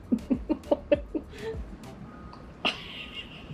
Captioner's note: laughs